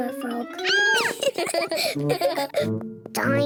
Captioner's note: squeals; both giggle